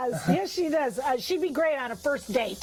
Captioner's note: laughs